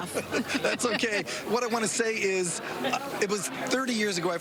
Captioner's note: laughter